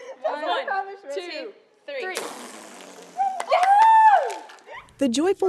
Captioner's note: cheers